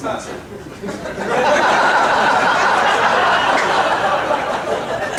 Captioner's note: audience laughing